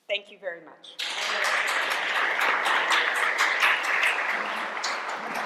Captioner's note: applause